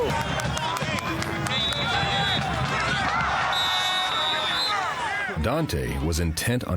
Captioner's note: general chatter, whistling, clapping